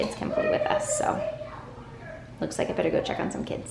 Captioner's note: children yelling